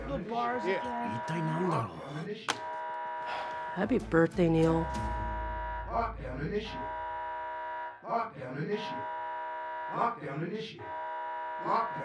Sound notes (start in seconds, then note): 0.1 alarm ringing; 1.4 man speaks in Japanese; 8.0 alarm Voice